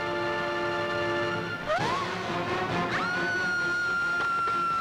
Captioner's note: Screams